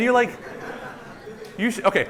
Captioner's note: laughter